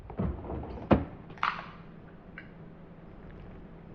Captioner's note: soda can pops